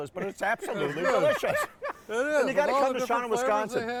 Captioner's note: laughing